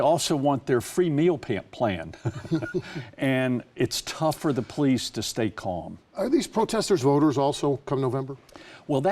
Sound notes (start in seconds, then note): 2.2 laughing